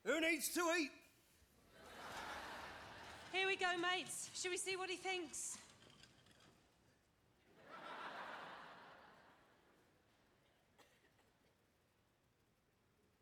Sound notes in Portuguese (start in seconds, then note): 1.8 audience laughing; 7.6 audience laughing